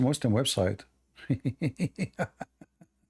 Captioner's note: Ketawa